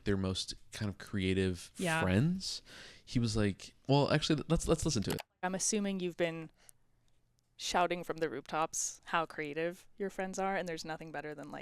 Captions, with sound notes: their most kind of creative friends. He was like, well, actually, let's listen to it. (computer mouse clicking) - I'm assuming you've been shouting from the rooftops how creative your friends are and there's nothing better than,